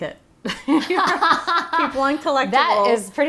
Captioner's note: laughing